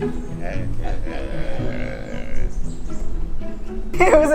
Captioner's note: monkeys grunting together